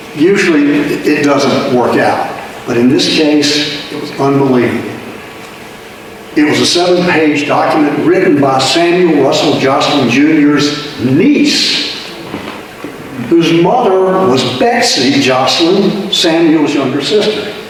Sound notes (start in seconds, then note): none